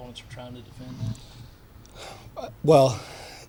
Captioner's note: sighs